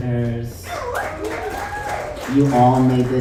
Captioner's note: audience applauds